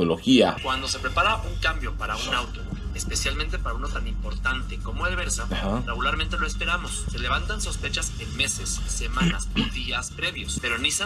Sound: man speaking in Spanish

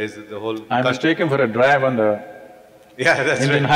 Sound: laughs

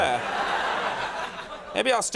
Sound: audience laughs

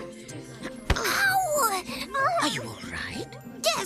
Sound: whap!

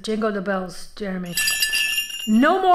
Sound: bells jingling

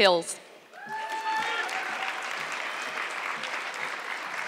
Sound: audience clapping

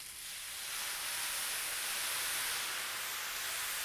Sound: sizzling

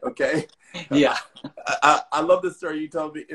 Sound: laughs

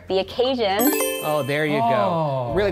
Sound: magical electronic whooshing

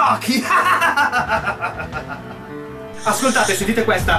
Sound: evil laugh

